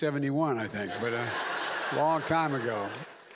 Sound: laughter

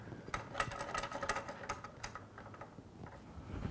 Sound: lugs rattling

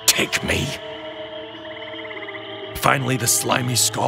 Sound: swamp animals chattering continues

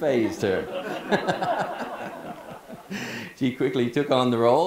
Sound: people laughing

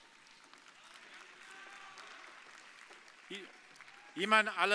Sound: audience applauding

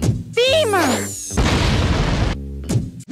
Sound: boom

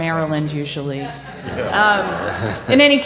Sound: laughter

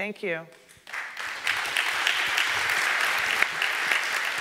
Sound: audience clapping

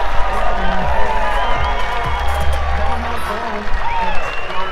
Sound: cheering continues

